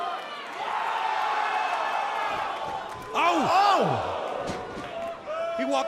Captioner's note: crowd cheering